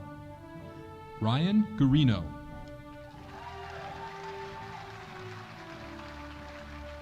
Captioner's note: audience applauding